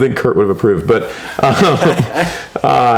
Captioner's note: laughs